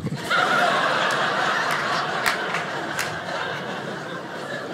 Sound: audience laughing

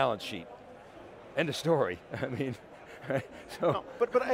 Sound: laughs

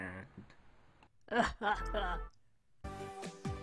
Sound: weird Evil Laugh

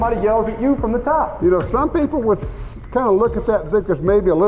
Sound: voiceover

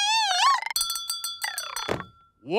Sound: bell ringing

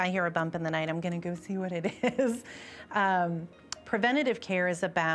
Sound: chuckles

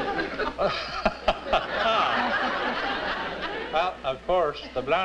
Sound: laughter

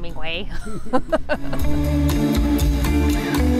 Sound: laughs; upbeat music

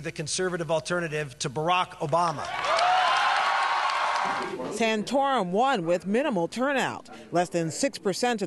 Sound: cheering and applause

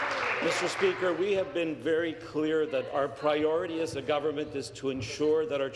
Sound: applause

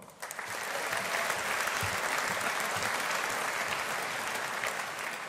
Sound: audience applauding

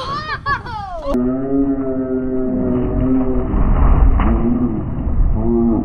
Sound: slow-motion low shouting

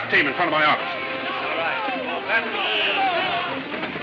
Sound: men shouting

